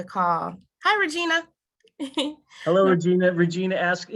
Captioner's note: chuckles